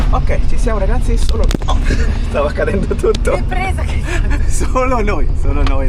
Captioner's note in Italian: risate